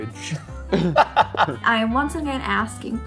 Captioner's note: laughs